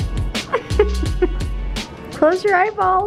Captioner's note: chuckling